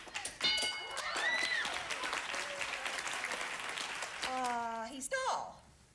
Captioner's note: audience applauding